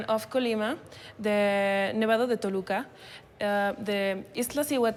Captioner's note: speaking Spanish